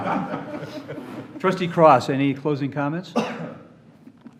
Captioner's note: laughter